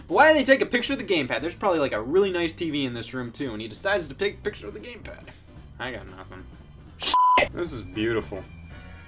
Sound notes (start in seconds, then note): 7.0 beep